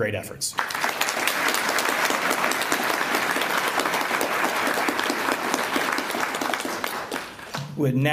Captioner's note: applause